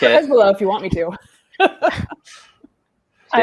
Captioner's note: all laughing